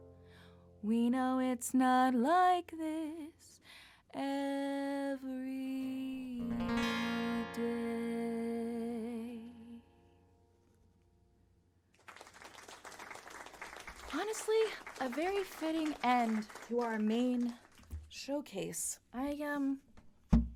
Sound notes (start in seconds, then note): 9.9 amazingly well-timed applause sound redeemed by someone in the chat